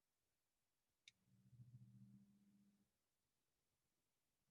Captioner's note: mouse clicking